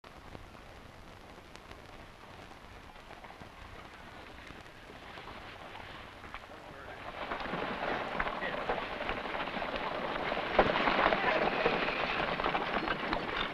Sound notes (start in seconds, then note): 3.2 carts rattling; 6.4 men chattering softly; 10.7 carts rattling